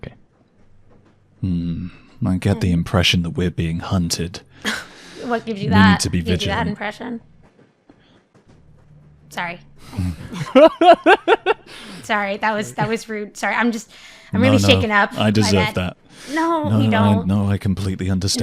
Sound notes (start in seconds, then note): 4.5 huffs; 10.0 laughter